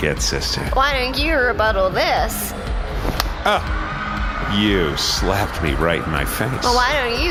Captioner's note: flatly; sound of very gentle slap